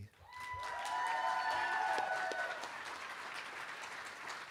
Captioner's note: cheering